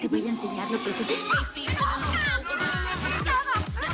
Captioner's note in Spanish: Grito